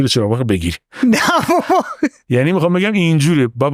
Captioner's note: laughs